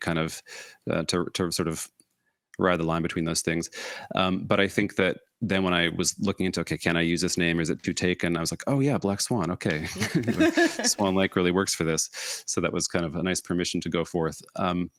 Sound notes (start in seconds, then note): 9.8 chuckle